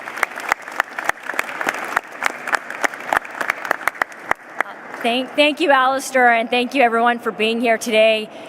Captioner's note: applause